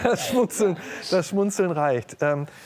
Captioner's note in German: Lachen